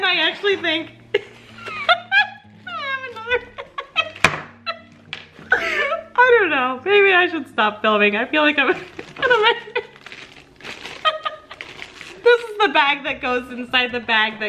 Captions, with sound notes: And I actually think (laughing) I don't know. Maybe I should stop filming. I feel like I'm (laughing) This is the bag that goes inside the bag,